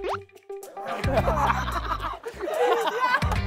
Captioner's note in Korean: ㅎㅎㅎㅎㅎㅎㅎㅎㅎㅎㅎ